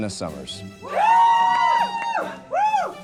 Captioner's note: cheers